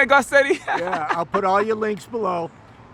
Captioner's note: giggles